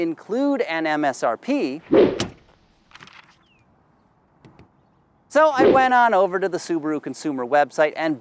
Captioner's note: transition sound; paper rustling